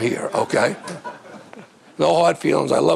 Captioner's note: audience laughing